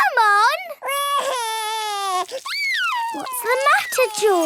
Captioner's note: crying